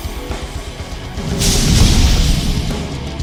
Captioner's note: whoosh